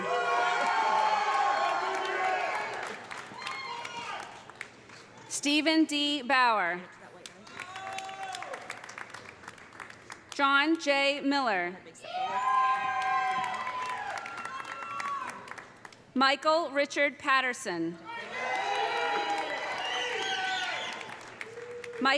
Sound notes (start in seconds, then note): 0.0 audience cheering; 0.4 audience applauding; 7.3 audience applauding; 7.5 audience cheering; 12.1 audience cheering; 12.6 audience applauding; 18.1 audience cheering; 18.4 audience applauding